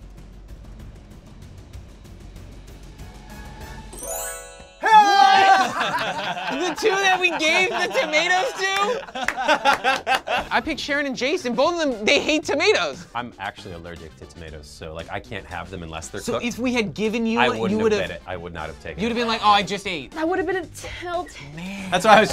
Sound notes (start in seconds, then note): 0.0 tense music; 4.8 group laughs